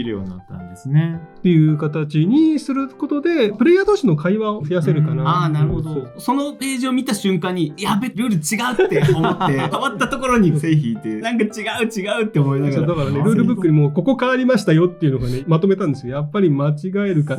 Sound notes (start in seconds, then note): 11.6 laughs